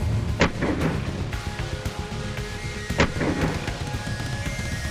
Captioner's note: slow-motion gunshots